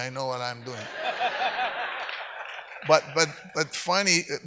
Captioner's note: audience laughs